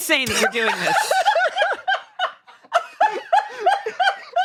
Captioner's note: they laugh